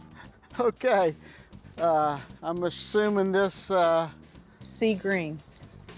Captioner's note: laughs